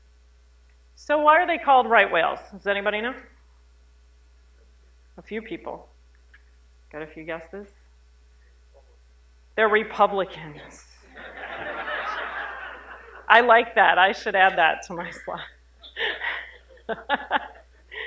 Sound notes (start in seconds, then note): 11.1 laughter; 15.8 laughs